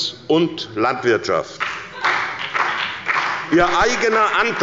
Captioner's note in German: Beifall bei der SPD – Lachen bei dem BÜNDNIS 90/DIE GRÜNEN